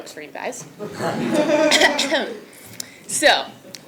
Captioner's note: laugh